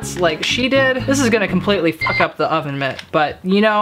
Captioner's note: beep